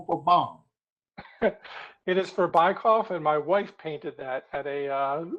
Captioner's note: laughter